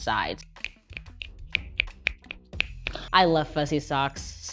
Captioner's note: fingers snap